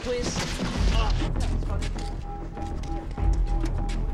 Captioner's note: distant chatter